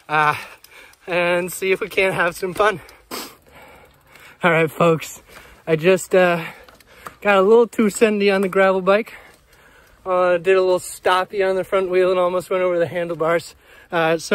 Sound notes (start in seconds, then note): 2.8 breathes out